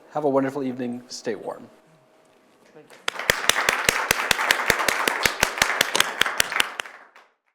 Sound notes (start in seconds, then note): 2.9 audience applauding